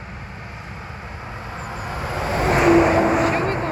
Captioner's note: engine revving